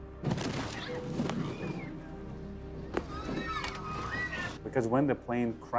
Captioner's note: people screaming